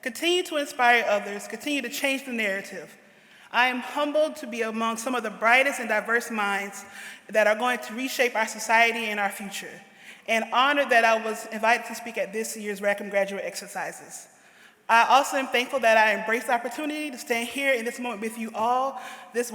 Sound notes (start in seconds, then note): none